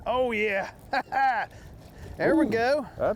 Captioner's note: laughs